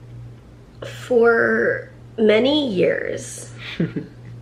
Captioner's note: laughs